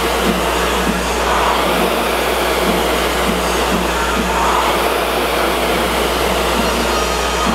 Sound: rower continues roaring

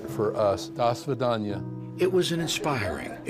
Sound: speaks Armenian

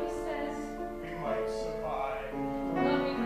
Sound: MARVIN, spoken

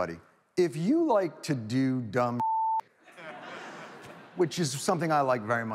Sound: audience laughs

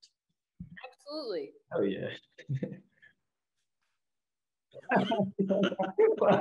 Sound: laughs

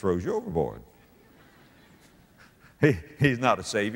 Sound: audience laughter

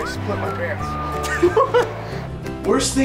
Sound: giggle

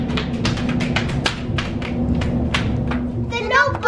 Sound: footsteps

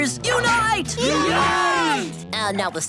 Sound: cheering

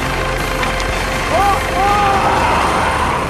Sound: screams

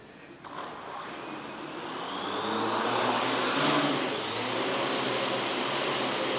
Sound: buzzing

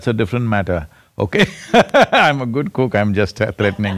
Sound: laughs

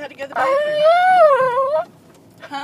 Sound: crying

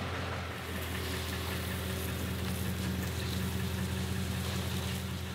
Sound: leaves rustling

